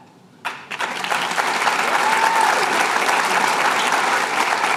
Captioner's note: applause